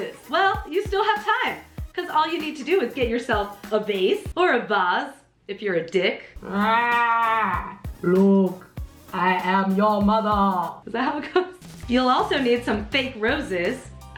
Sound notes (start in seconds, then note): 6.4 makes a roar sound into the vase